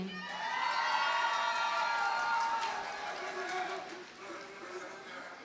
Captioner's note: audience cheers and applauds